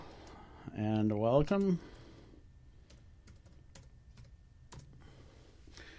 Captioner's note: typing